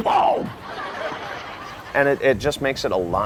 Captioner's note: audience laughing